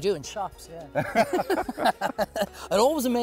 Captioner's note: laughs